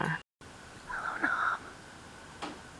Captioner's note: whispers